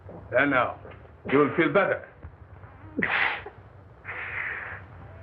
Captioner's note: grunting